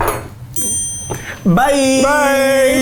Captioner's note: bell dings